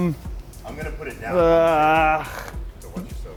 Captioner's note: groaning